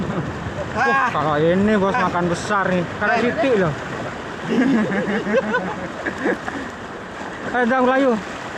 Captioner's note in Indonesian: tertawa